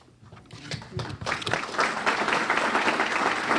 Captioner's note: clapping